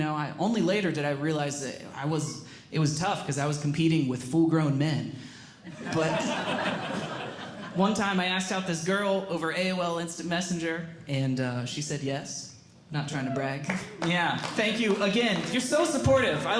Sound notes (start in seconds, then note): 5.7 audience Laughing; 13.6 audience Member Clapping